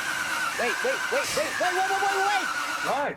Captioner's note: engine puttering